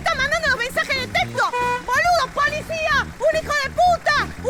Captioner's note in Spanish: Bocina